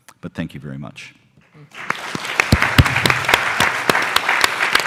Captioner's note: applause